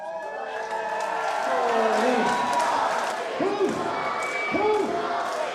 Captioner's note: crowd clapping and cheering; {Crowd